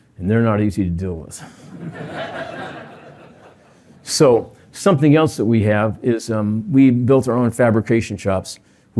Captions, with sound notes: and they're not easy to deal with. [LAUGHTER] So something else that we have is we built our own fabrication shops.